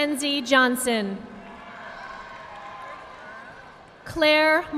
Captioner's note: audience applauding